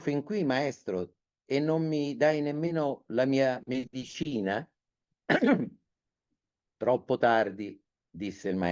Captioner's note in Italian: schiarire la voce